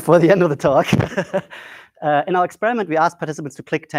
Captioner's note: laughs